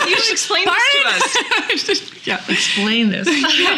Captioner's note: laughs